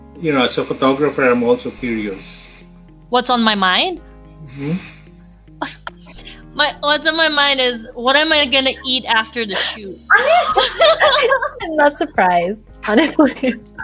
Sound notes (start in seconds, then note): 10.0 laughs